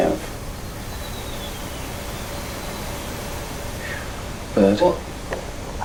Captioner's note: repeated Whistling